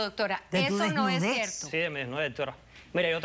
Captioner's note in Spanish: Hablan al unísono